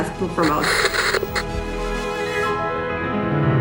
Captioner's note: static crackles softly